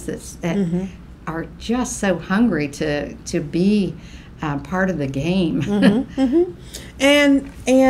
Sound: laughs

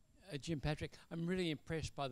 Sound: voiceover

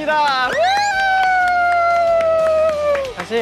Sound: applause

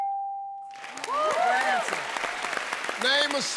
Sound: cheers and applause

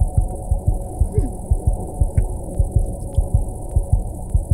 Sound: Sandra swallows

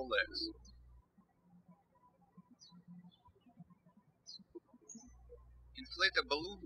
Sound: birds chirping

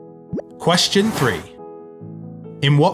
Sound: number pops and whooshes

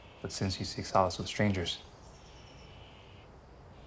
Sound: none

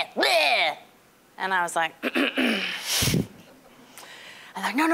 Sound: clearing throat

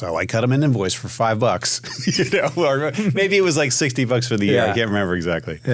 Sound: laughs

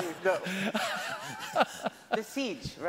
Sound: laughs

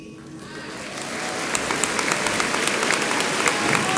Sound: audience applauds

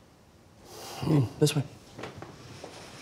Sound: Dad grunting

